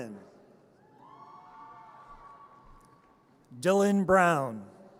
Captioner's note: audience cheers